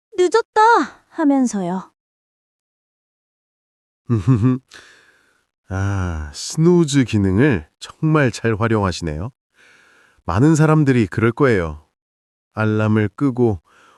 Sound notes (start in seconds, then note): 4.1 laughs